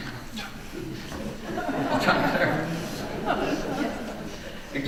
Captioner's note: audience laughing